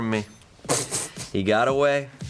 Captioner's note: crew member snickers